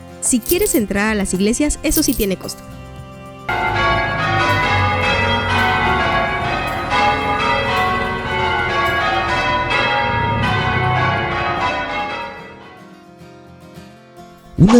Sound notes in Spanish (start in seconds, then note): 2.6 Campanadas